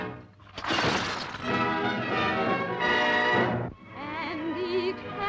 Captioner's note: glass breaking